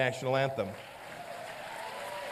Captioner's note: applause